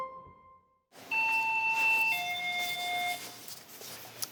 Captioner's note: ding dong